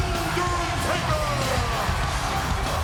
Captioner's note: audience cheers